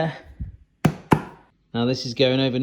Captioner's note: hand slapping